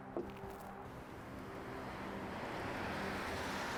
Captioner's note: traffic noise